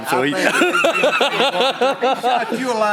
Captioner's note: laughs loudly